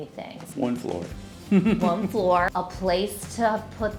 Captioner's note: chuckling